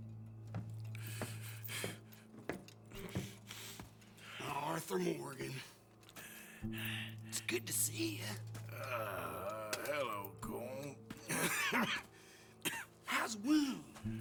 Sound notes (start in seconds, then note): 11.2 cough